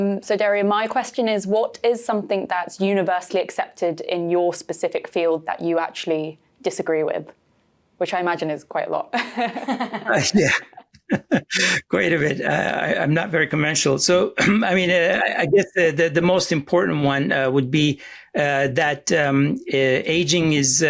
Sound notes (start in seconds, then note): 9.1 all laughing